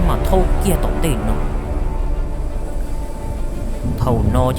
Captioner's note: whoosh